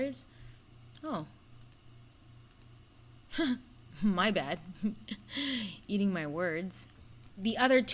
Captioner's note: chuckles